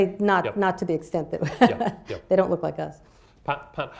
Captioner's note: chuckles